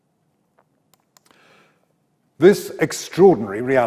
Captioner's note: mouse clicks